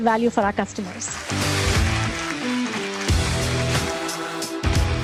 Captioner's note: audience applauding